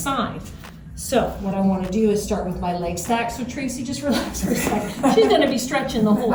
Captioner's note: both laughing